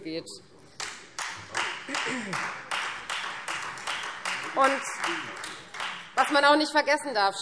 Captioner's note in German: Beifall Freie Demokraten